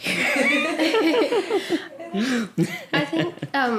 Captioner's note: laughter